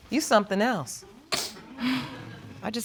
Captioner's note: audience chuckles